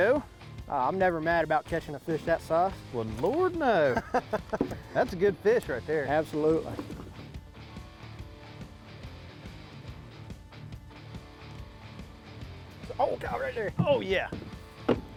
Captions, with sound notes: - There we go! - I'm never mad about catching a fish that size. - Wouldn't Lord no. (laughter) That's a good fish right there. - Absolutely. (rock music) Oh god right there. - Oh yeah.